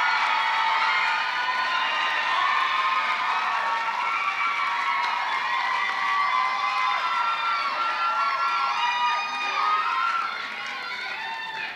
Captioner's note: applause